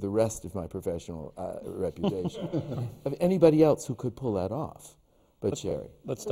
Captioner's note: laughter from the panel